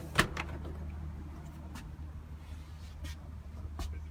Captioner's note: door closing